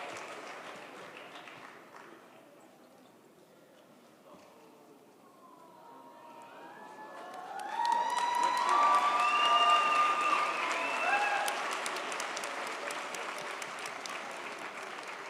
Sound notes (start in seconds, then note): 8.0 audience cheers